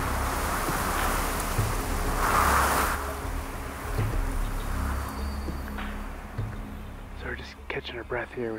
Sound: wind gusts

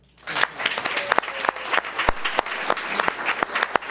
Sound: audience applauds

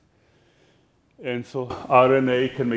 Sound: none

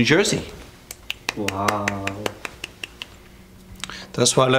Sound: Eric applauds

